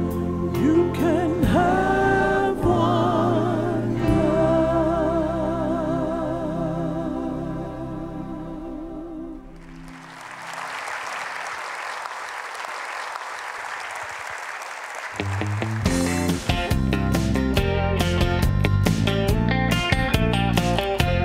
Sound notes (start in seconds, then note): 9.5 applause